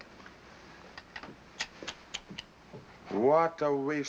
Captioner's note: clicks tongue